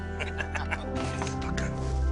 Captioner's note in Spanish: Risas